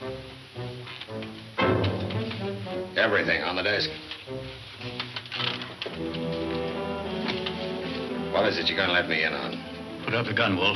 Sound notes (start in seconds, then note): 3.0 shuffling